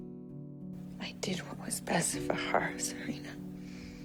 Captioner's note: voiceover